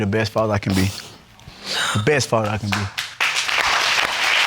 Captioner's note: sobs; audience applauding